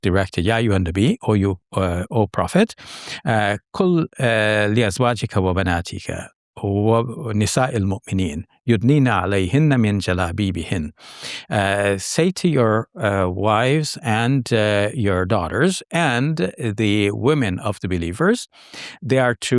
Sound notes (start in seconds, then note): 1.3 speaks Arabic; 4.3 speaking Arabic